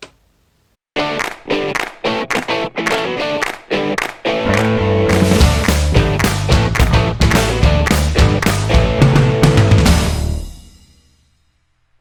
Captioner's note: claps